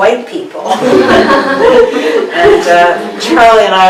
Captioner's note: participants laughing